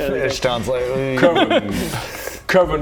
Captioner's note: embarrassed mmm